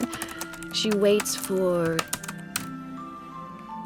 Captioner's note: typing stops